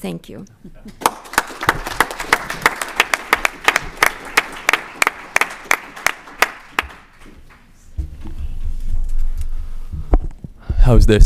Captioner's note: applause